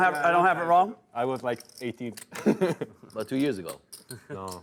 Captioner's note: voiceover